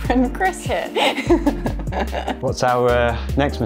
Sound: laughs

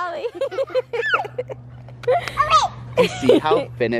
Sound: laughing

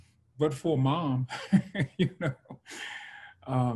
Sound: laughs

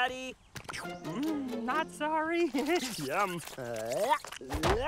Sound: slurping

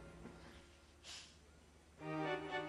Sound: sighs

